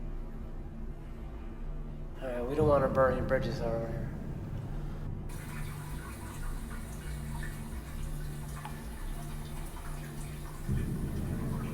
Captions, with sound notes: - All right, we don't want to burn our bridges down here. (pipe water trickling)